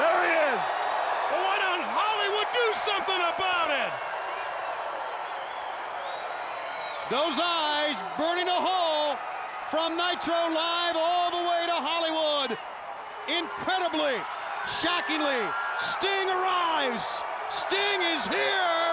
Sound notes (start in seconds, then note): 4.4 audience cheering; 5.2 attendee whistling